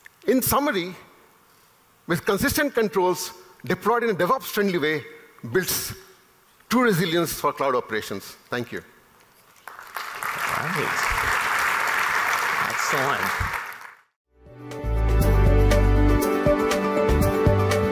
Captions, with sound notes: In summary, with consistent controls deployed in a DevOps friendly way, builds two resilience for cloud operations. (applause) - Nice. Excellent (upbeat music)